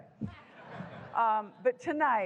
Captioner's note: laughter